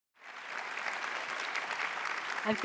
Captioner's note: applause